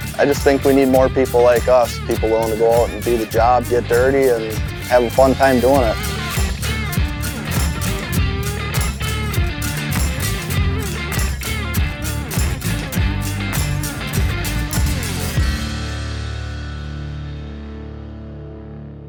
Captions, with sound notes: I just think we need more people like us, people willing to go out and do the job, get dirty and have a fun time doin' it. (upbeat electronic music) (heavy machinery humming)